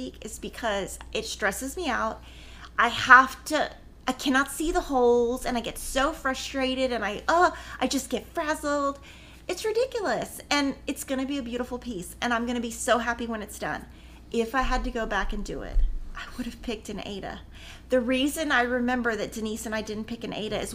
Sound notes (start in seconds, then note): none